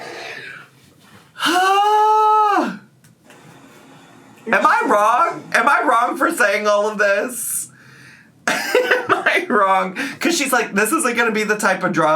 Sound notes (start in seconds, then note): 1.7 breathing deeply; 8.6 laughs